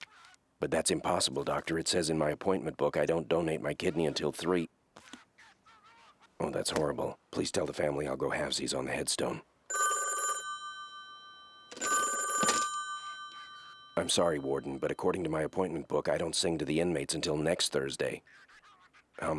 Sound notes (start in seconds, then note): 5.3 muffled yelling; 9.7 ringing